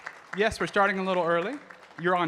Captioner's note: audience clapping